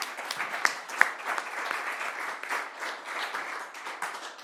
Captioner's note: audience applauding